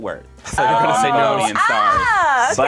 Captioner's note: overlapping chattering